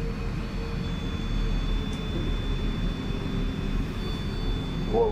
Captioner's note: device ringing